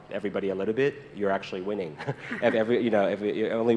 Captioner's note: chuckles